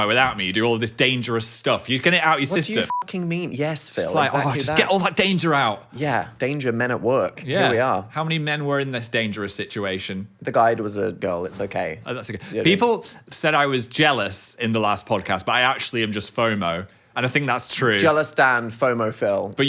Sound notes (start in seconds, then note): 2.6 beep